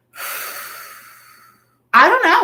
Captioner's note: exhaling